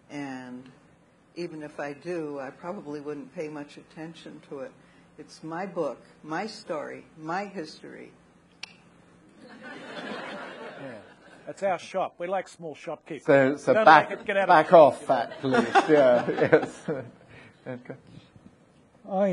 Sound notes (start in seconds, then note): 8.6 clicks tongue; 9.4 audience laughing